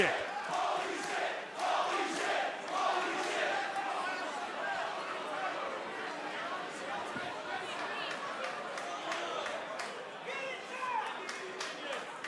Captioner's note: crowd cheering